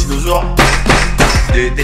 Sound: tap tap tap

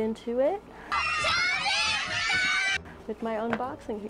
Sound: screaming

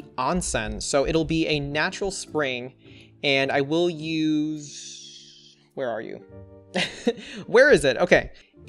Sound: laughs

